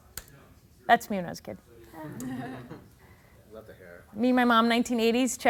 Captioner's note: laughing